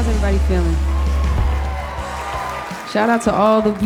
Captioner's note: audience cheering